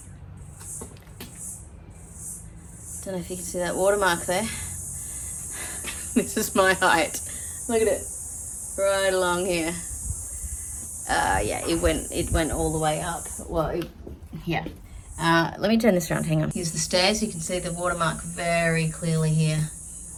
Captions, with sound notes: Don't know if you can see that water mark there, which is my height. [laugs wryly] Look at it. Right along here. Uh, yeah, it went, it went all the way up. Well, it, yeah. Uh, let me turn this around, hang on. Here's the stairs. You can see the water mark very clearly here.